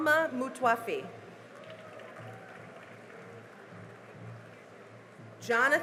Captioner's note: cheering and applause